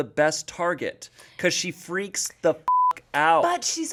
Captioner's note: beep